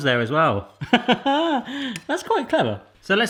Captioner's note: laughs